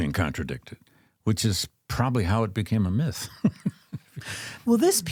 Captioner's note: laughs